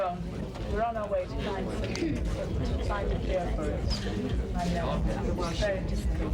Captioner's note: indstinct chattering